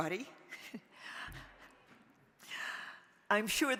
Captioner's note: chuckling